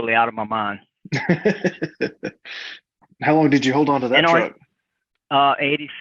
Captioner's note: laughing